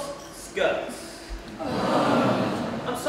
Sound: collective groan from students

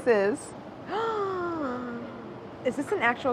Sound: gasps

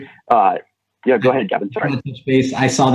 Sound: audio warps

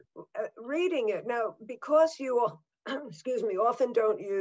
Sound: coughs

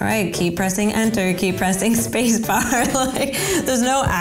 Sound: laughs

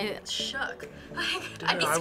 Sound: chuckles

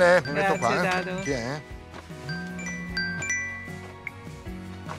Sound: cell phone rings

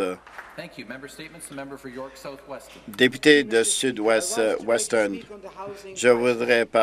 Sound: some Applause

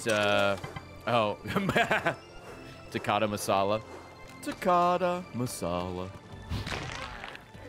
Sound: laughs

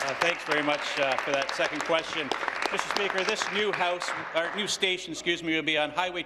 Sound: applause

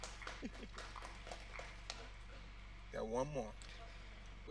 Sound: audience clapping

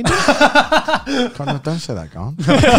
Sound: laughs

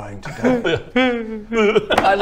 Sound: wails

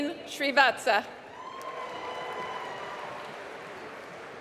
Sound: applause

